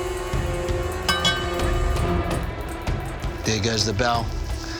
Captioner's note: bell ringing